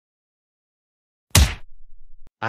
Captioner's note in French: FX - Punch